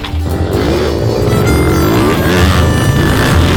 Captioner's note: engines buzzing